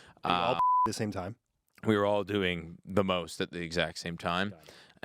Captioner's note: beep